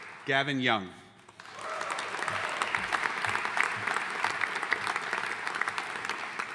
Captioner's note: audience cheering and applauding